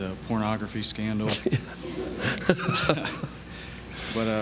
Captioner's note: laughter